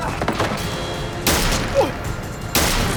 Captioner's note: gunshot